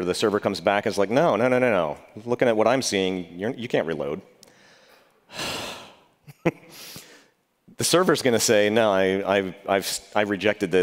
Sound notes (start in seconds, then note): 5.3 sighs